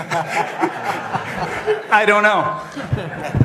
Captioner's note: laughter